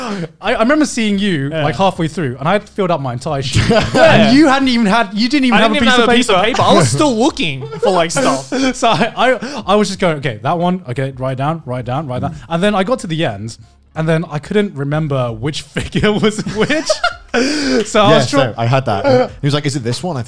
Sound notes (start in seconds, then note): 16.2 laughs